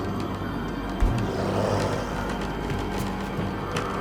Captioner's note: growl